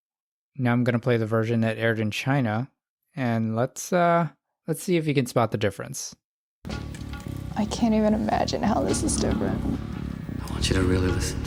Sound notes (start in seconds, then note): none